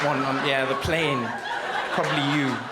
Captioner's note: crowd laughs